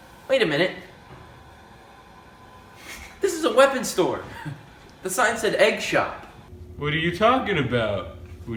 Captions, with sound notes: - Wait a minute. This is a weapon store. (chuckling) The sign said 'egg shop.' - What are you talking about?